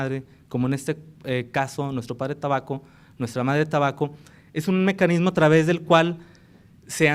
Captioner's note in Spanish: habla en lengua indígena